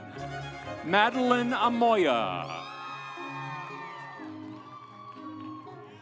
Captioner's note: audience cheering; instrumental music